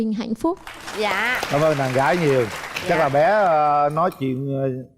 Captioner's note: applause